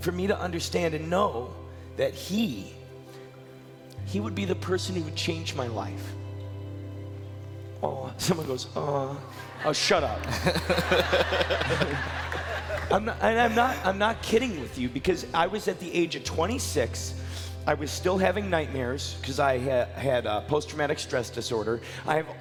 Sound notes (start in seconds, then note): 6.6 upbeat music; 9.1 crowd laughing